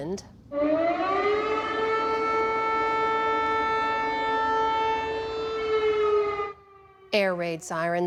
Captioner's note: sirens blaring